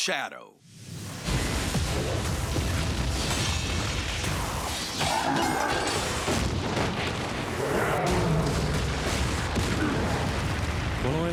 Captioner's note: sounds of battle